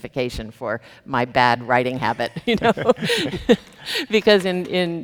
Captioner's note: chuckles